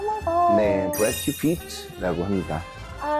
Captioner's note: exchanging-names sound effect